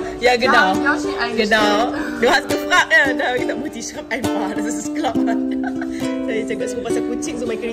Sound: speaking German

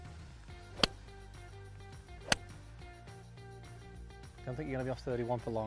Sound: hitting ball

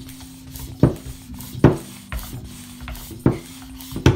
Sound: table bangs

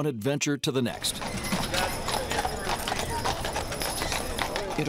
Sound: sound of horse hooves on pavement

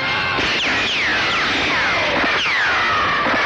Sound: gun Firing

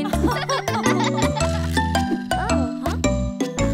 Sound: chuckling

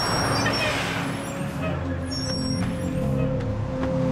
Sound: brakes squeak

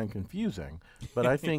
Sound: laugh

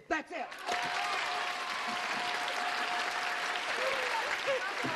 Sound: cheers and applause

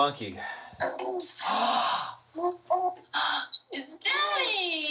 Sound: baby noises

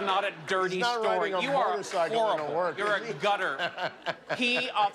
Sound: laughter

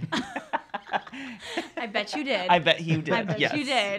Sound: laughs

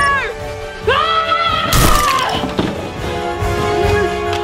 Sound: shouting

